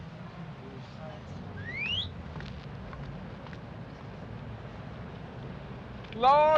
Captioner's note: whistle